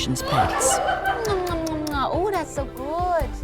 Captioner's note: people laughing